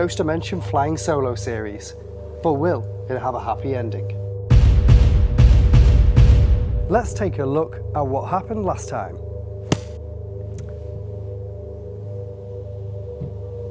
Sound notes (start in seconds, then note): 4.2 dramatic music; 9.7 book slamming